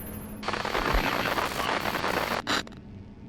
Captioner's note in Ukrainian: незрозумілі спотворення статики